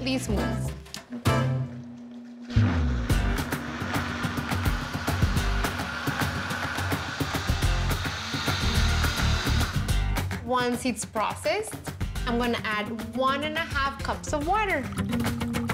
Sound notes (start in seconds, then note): 2.5 blender whirs